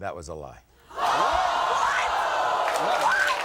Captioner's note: audience gasping